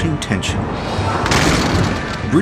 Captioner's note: guns fire